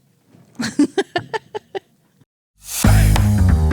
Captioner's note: laughing; upbeat music